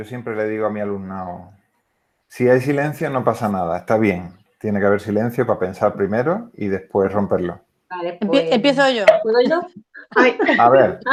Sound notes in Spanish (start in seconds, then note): 9.1 Risas